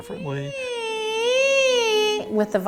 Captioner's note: high voice